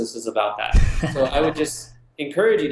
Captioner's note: laugh